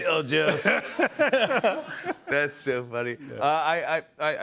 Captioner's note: laughter